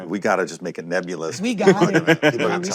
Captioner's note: laughter